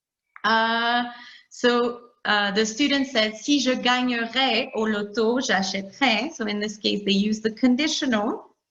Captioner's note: talking in French